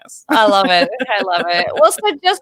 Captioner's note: laughing